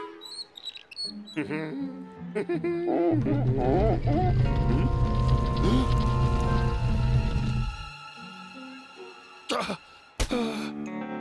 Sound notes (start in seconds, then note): 0.1 wheelbarrow squeaks; 1.1 laughing; 2.8 pumpkin squeaks; 10.2 sighs